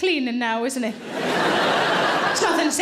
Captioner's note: audience laughing